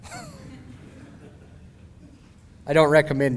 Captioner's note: laughing